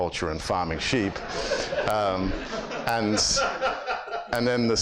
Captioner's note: audience laughs